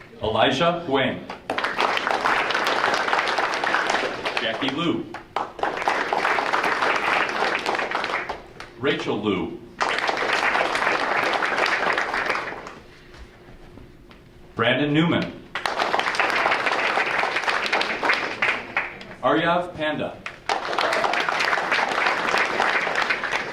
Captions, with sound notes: Elijah Huang. (audience applauding) Jackie Liu. (audience applauding) Rachel Liu. (audience applauding) Brandon Newman. (audience applauding) Aryav Panda. (audience applauding)